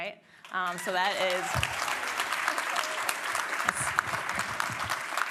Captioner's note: applause